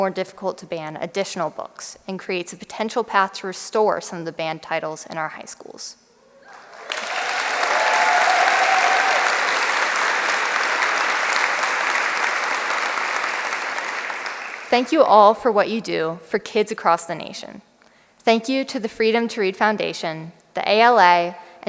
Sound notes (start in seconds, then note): 6.4 applause